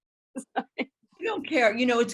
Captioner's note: laughing